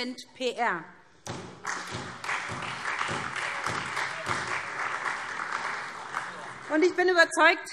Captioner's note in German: Beifall SPD, Freie Demokraten und DIE LINKE